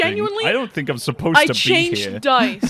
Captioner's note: laughs